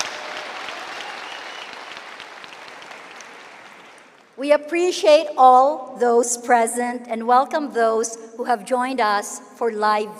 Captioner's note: cheering and applause